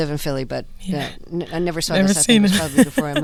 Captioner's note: laughter